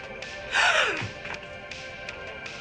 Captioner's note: gasping